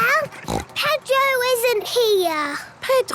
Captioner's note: snort